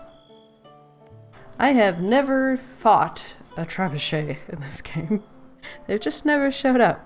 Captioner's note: laughs